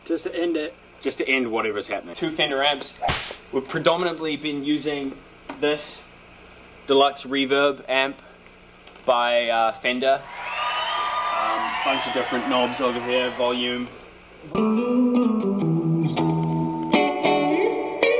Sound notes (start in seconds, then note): 3.0 whip crack; 10.2 cheering